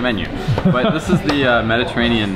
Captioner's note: laughing